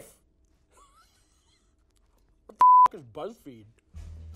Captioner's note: laughing